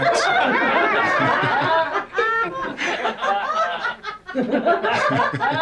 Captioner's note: all laughing hysterically